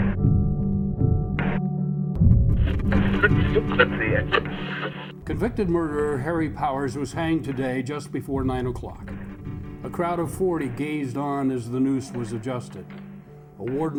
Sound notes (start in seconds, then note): 2.6 radio tuning; 5.5 voiceover